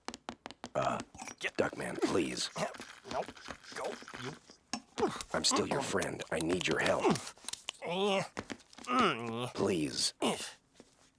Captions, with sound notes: Uh, Duckman, please... Um, nope. Go, you. (straining) I'm still your friend. I need your help. (grunting) Please.